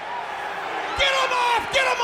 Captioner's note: audience jeers